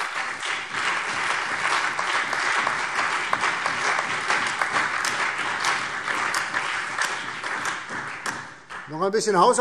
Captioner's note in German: Allgemeiner Beifall